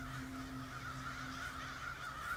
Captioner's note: birds cawing